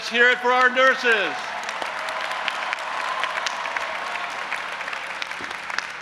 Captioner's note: audience applauding and cheering